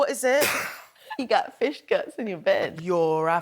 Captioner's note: laughing